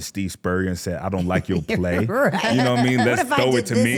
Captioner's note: laughs